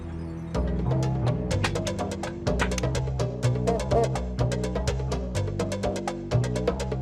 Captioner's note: somber, fast music; stapler clicking